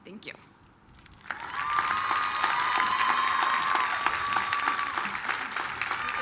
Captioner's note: applause, cheering